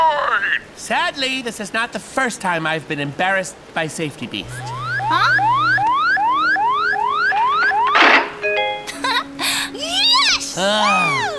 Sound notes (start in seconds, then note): 4.4 beep beep